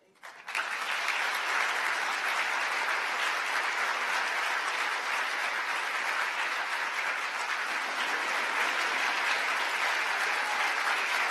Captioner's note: applause